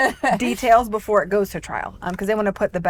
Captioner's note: laughs